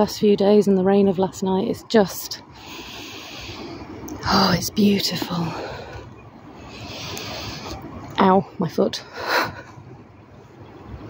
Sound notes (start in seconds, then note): 2.6 breathes in deeply